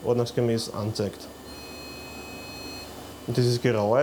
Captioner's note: beeping